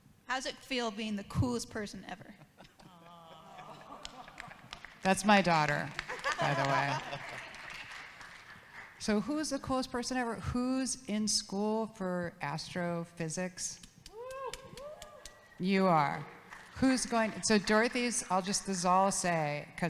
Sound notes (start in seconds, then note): 3.8 audience claps; 14.1 audience cheers; 16.0 audience claps